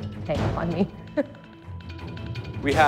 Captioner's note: laughing